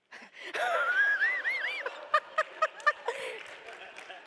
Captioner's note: laughter in response to captioner's remark; applause